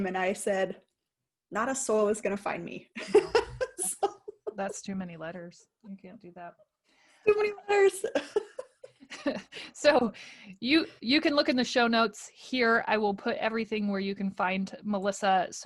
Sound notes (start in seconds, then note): 3.0 laughing; 8.0 laughing